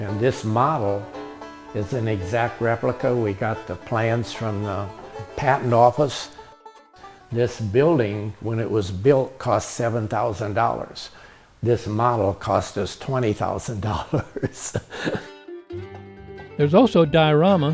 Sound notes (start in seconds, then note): 13.8 laughing